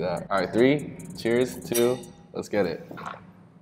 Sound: glass clinks

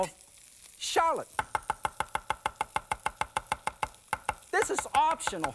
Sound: knife tapping

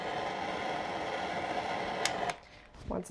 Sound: hissing

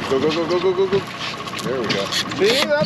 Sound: fish splashing

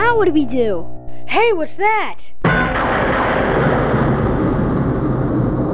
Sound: lightning strikes

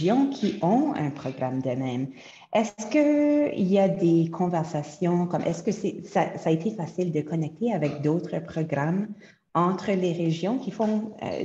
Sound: French

